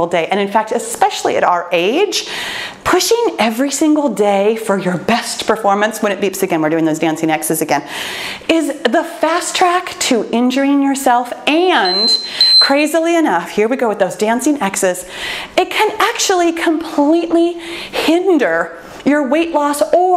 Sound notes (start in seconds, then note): 11.8 timer beeping